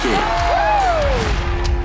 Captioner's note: crowd cheering